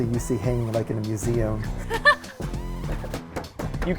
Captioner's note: laughing